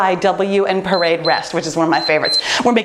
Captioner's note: timer beeps